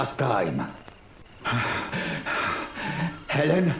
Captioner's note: Cooper huffing